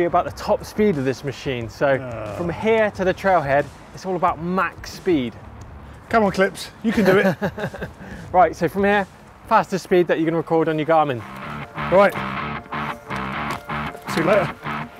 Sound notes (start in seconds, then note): 6.9 laughing